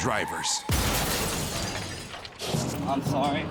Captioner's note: crunching crash